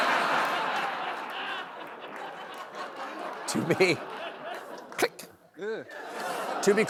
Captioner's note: laughter